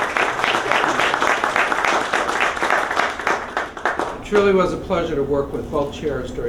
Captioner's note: applause